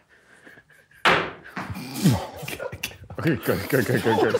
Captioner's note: tennis ball bouncing; group quietly gasps; tennis ball smacks wall; group quietly laughing